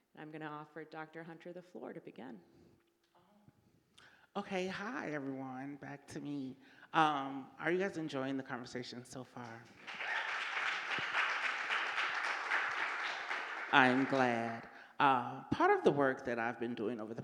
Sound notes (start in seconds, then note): 9.8 audience applauding